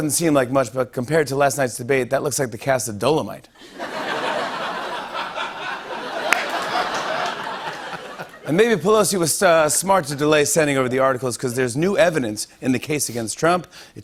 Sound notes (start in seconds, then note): 3.6 laughter; 6.1 applause